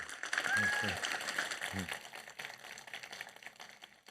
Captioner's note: audience applauding